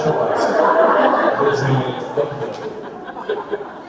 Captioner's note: audience laughter